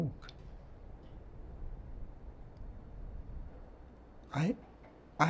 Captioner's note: foot steps walking down stairs